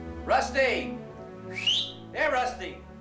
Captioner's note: whistle